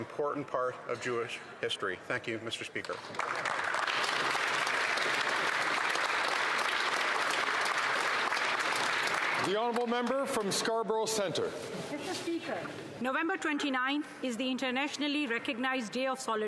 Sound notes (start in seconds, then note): 7.9 some Applause